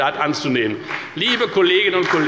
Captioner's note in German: Beifall bei der FDP